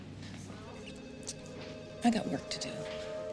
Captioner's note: clicks tongue